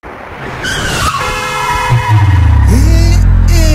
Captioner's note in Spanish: zonido duro de llantas frenando, bocina i caída de graves